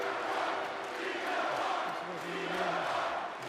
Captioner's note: crowd cheering